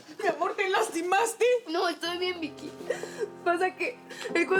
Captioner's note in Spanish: sollozos